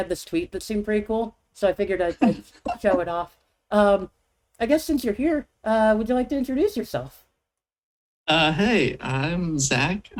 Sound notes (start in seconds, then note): 3.7 chuckles